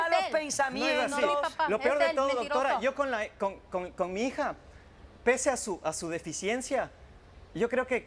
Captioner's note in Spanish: Hablan al unísono